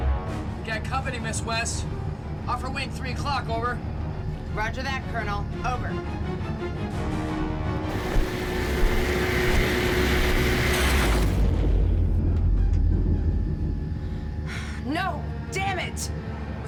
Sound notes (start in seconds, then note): 7.0 dramatic music; 9.3 propeller whirs